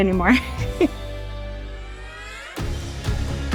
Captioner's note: chuckling